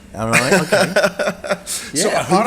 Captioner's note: laughs